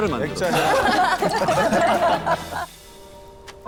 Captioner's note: laughing